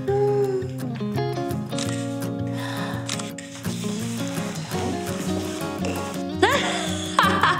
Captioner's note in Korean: 카메라 촬영음